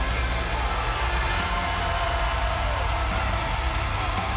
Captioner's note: crowd cheers